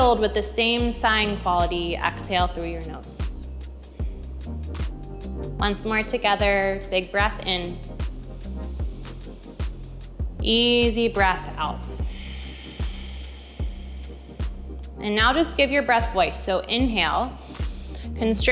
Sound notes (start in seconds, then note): 8.4 inhaling; 11.8 exhales